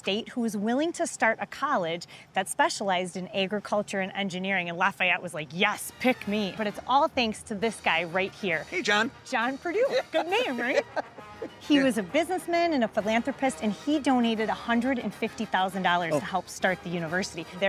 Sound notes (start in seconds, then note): 9.8 laughs